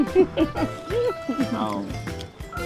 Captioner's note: both laughing